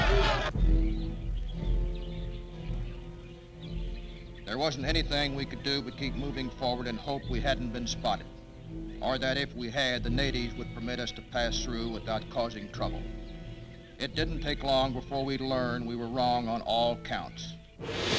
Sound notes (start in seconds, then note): 0.0 tense orchestral music; 0.7 birds chirping; 17.8 tense orchestral music